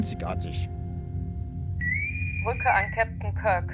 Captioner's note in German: Interkomm pfeift